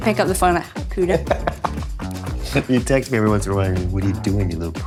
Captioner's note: chuckles